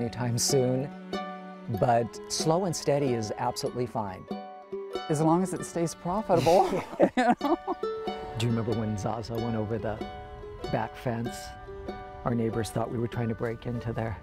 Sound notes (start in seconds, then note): 6.4 laughs